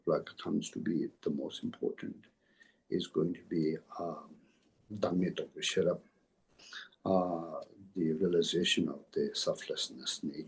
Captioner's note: tibetan